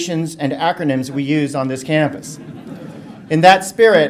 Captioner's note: audience laughter